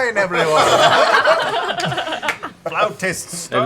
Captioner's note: laughter